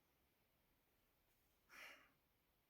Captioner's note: sighs